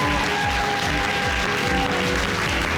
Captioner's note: audience cheering